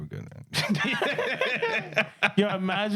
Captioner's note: laughing